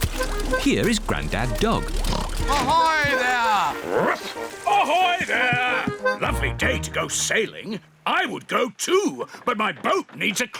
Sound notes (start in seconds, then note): 1.5 oinks; 3.3 barks